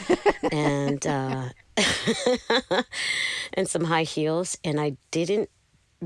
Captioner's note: laughter